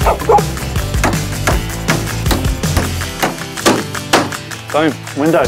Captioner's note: buzz saw; hammering